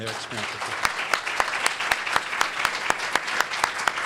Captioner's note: applause